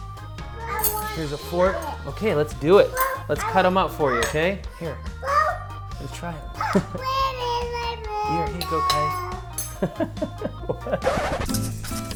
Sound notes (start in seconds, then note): 5.2 little girl babbles; 9.7 laughs; 11.0 record scratch; 11.9 elevator music